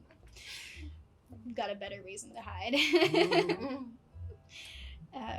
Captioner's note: laughs